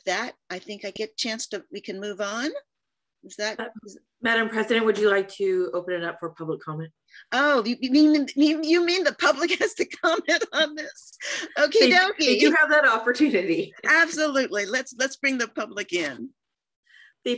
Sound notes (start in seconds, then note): 11.2 laughter